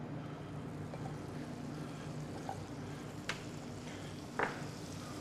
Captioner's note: skillet sizzling